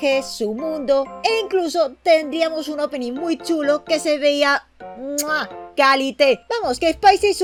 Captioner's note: muack